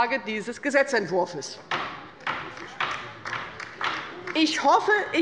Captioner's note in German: Beifall bei der LINKEN